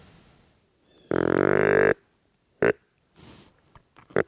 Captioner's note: deer calling